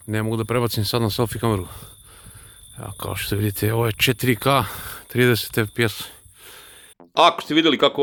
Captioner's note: sigh